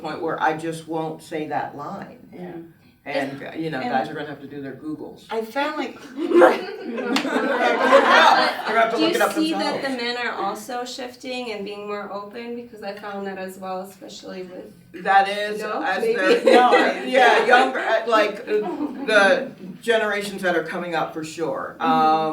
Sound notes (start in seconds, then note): 6.0 everyone laughs; 15.9 laughs